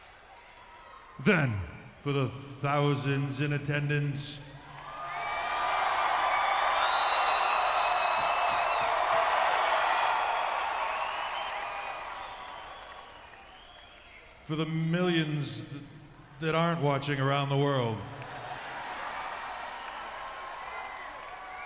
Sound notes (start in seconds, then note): 4.5 audience cheering; 17.6 audience cheering